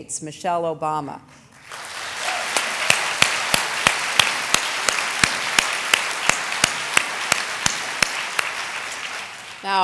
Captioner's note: applause